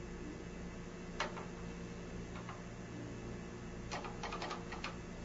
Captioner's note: keys clacking